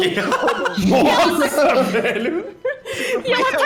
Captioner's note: everybody laughing